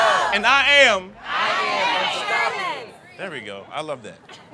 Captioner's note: overlapping shouting